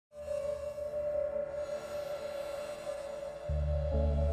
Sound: eerie hum

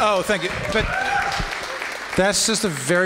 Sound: applause

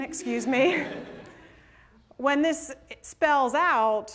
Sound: laughter

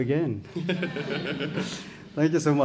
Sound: audience laughs

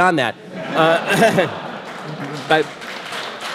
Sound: audience laughter; audience applause

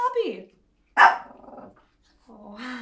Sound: dog barks and whines

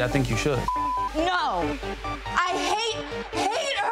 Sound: beep

